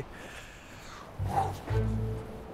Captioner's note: sighs